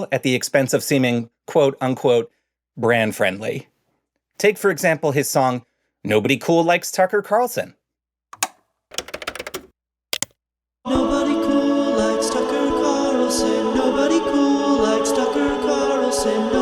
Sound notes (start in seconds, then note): 8.9 buttons clicking